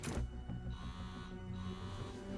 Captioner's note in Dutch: telefoon trilt